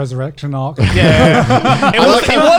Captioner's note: laughs